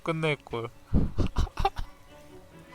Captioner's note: laughing sadly